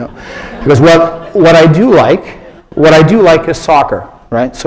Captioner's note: laughter